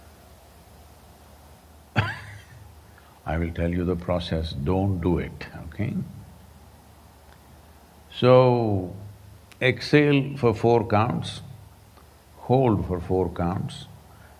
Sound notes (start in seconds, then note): 1.9 laughs